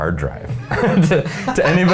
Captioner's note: men laughing